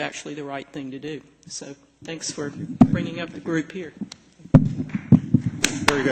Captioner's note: applause